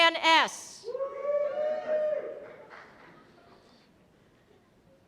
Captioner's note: cheers and applause